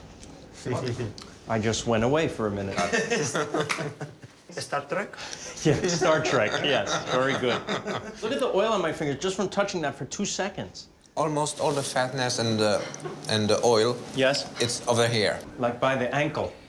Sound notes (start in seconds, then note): 2.8 laughs